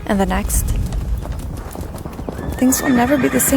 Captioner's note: horses running & whinnying